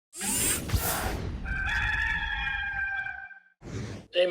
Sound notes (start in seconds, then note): 0.2 air whooshing; 1.4 cockerel crowing